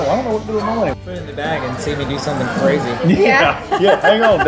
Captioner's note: laughs